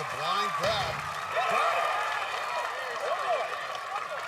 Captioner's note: cheering